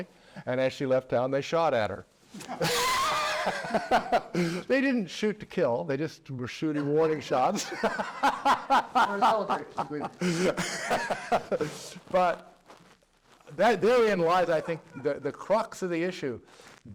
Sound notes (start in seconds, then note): 4.0 laugh; 11.2 laugh